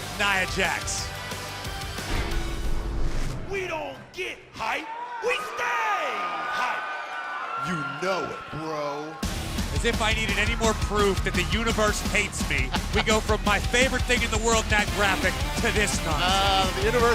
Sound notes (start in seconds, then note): 12.6 laughter